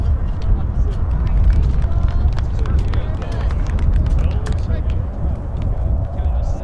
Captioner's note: applause